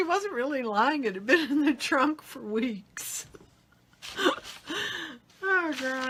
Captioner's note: laughs